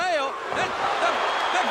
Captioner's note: audience cheers